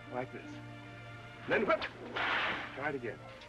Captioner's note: cracking whip